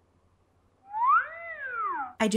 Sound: whistle noise

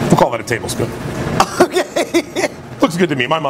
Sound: laughs

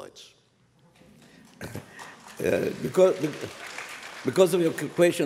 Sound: applause

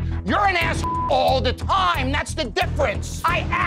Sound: beeping

